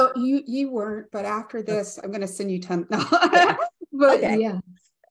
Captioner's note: laughs